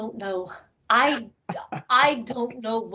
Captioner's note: laughing